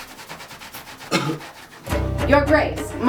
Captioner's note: coughs